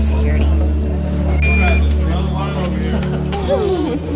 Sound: beep

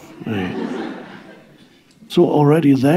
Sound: audience laughing

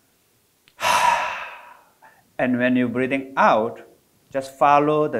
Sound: exhales

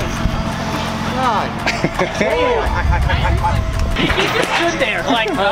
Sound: laughing

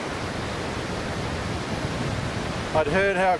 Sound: waves crashing

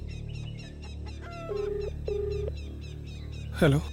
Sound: line ringing

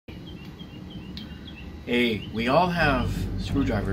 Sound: bird chirps

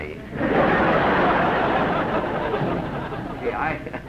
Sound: laughter

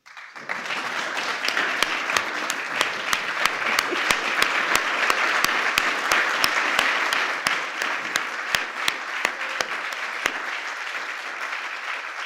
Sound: applause

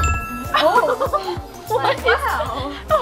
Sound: laughing

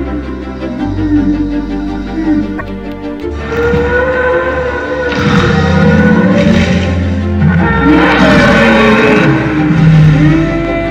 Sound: various dinosaurs sounds

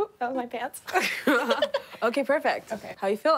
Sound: laughing

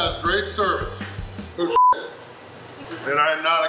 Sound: beep

